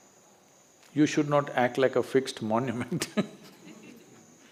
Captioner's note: laughs